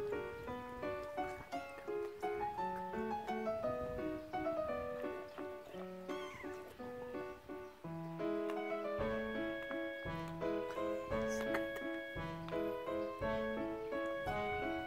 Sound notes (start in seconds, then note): 10.0 laughs